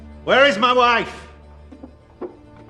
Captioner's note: chuckles